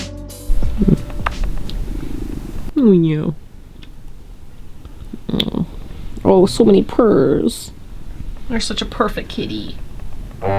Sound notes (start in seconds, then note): 2.2 cat purring